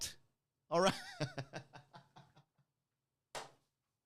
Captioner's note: laughing